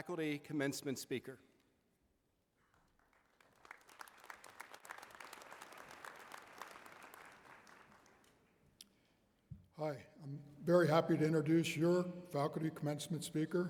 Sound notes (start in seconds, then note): 4.3 applause